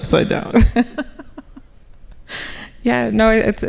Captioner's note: laughing